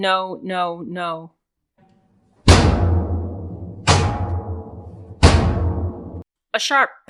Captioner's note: batons hitting metal in a rhythmic fashion to pump the fucking cops up